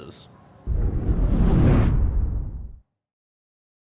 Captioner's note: air whooshes